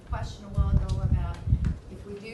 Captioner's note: none